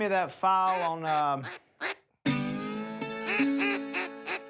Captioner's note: quacking